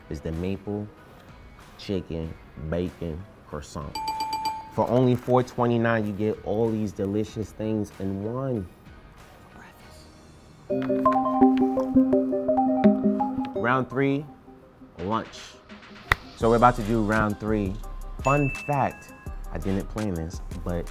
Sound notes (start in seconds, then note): 3.9 bell dinging; 10.7 melodic electronic chiming